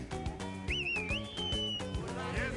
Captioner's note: whistles